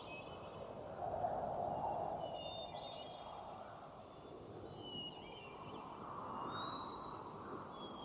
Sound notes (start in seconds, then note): 0.0 wind whistles; 1.4 birds chirp